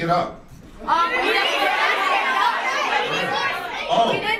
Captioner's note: audience cacophony